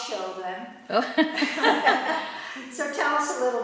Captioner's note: laughter